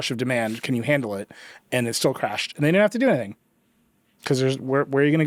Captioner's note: none